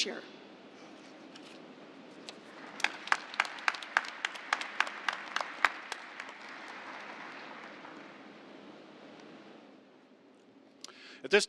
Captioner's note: applause